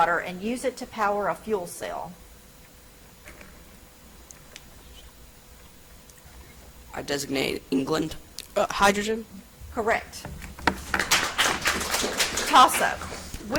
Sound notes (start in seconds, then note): 10.6 audience applauds